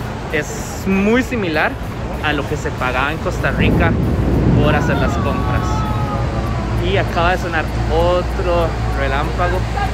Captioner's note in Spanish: trueno